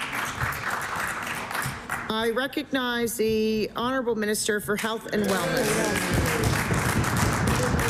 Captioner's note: applause